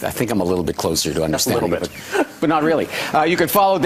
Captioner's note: laughs